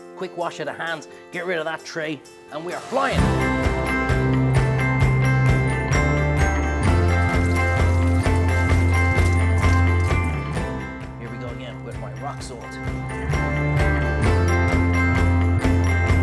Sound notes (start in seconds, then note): 3.7 cheerful upbeat music; 7.0 water splashes